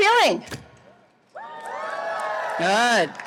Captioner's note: audience cheering